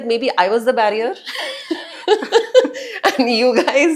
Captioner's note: laugh